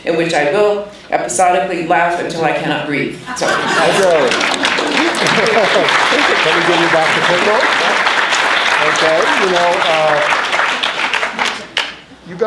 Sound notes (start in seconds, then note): 5.0 applauding; 7.6 chattering